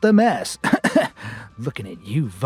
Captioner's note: coughs